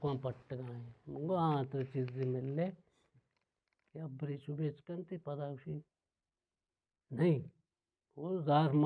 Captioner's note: with anger